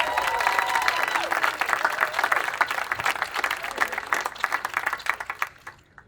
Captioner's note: attendees applauding and cheering